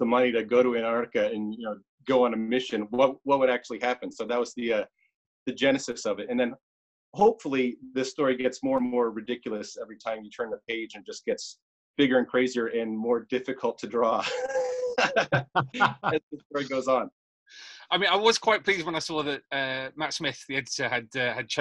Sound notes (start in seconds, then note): 14.2 laughs